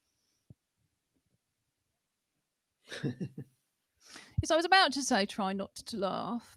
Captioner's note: laughter